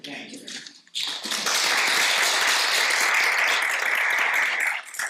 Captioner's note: audience applauding